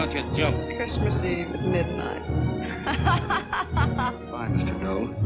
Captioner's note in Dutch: lachend